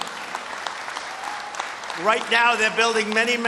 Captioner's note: applause